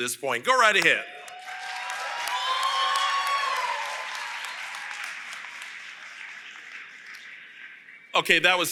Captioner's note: applause